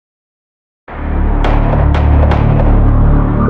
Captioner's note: gunshshots